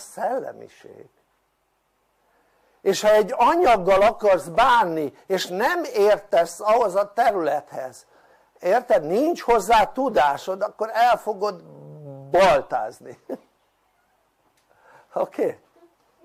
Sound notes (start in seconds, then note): 13.1 laughter